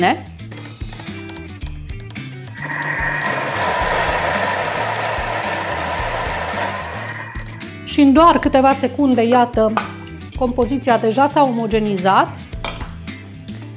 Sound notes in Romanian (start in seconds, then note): 0.5 zgomotul procesorului